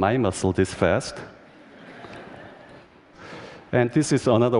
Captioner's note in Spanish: Risas